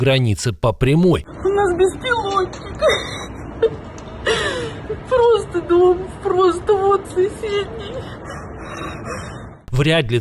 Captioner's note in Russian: плачет